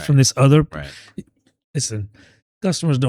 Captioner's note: uh